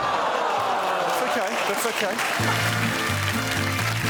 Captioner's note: all exclaim